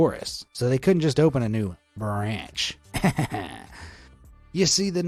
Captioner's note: chuckles